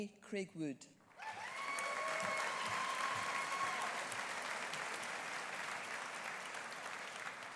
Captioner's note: audience applauding; audience cheering